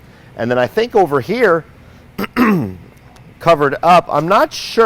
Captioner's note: clears throat